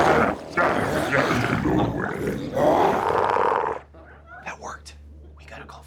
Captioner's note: glowzies grunting continues